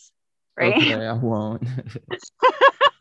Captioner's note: snickers; laughing